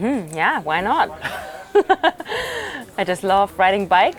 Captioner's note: laughs